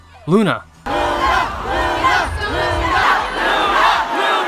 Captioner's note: crowds cheering ' ' repeatedly